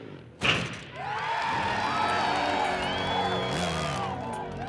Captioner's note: crowd cheering